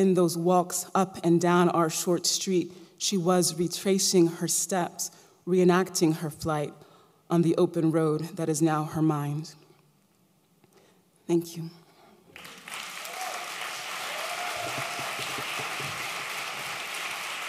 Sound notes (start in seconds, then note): 12.3 applause